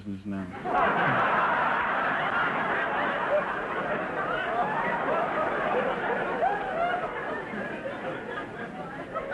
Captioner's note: audience laughter